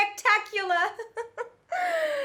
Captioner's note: laughing